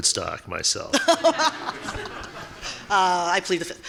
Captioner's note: laughing